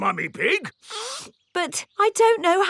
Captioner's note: sniffs